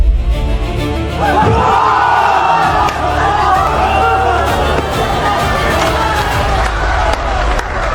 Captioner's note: cheering and shouting